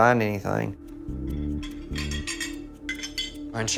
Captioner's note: ceramic clinking